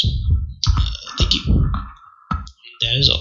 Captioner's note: burp